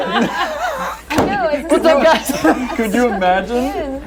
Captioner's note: laughter